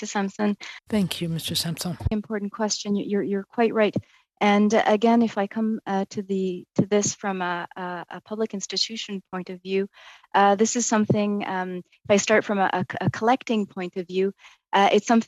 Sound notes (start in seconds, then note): 4.3 speaking French